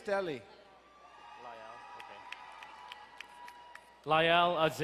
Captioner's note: crowd cheering and applauding